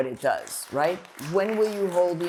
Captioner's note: applause